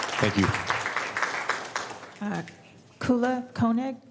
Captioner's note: applause